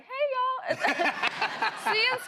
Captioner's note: laughter